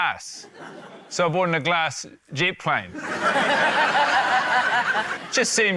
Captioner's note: laughter